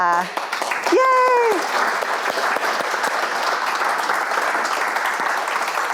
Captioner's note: audience applauding